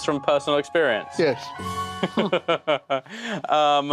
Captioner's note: laughing